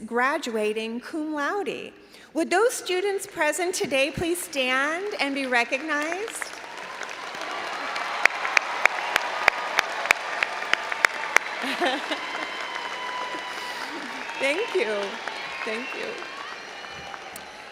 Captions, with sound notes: graduating cum laude. Would those students present today please stand and be recognized. (all applauding and cheering) Thank you. Thank you.